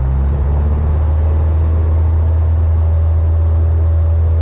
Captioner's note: engine humming